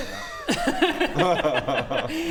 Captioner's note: grossed-out giggles